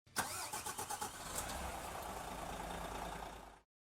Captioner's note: bus starting